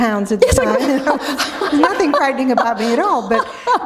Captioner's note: laughter